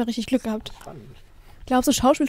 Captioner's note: quiet whispering